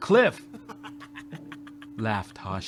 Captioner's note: laughing